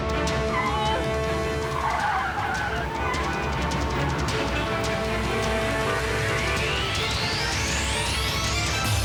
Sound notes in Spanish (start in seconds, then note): 2.1 chirrido de neumáticos